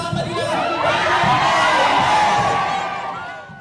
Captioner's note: cheers